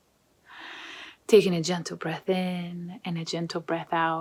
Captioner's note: inhales